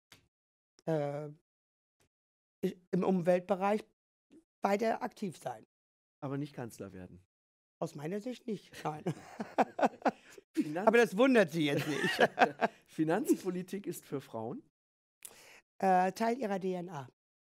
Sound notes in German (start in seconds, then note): 9.1 lacht